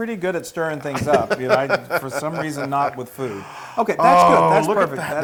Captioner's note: laugh